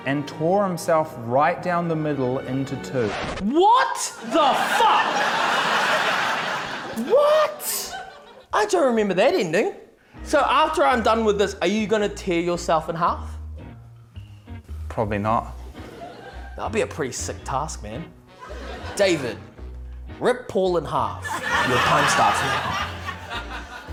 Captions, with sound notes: 'and tore himself right down the middle into two.' (RECORD SCRATCHES) - What the fuck?! (LAUGHTER) What?! I don't remember that ending. So, after I'm done with this, are you gonna tear yourself in half? - Probably not. - That'd be a pretty sick task, man. David, rip Paul in half. Your time starts now. (LAUGHTER)